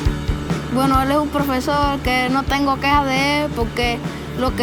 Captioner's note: upbeat rock music; speaking Spanish